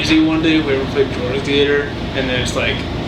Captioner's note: static drowns out voice